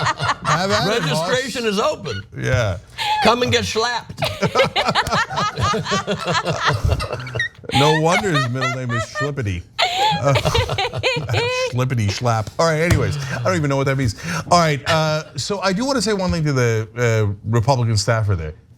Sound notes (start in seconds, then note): 0.0 laugh; 9.7 laugh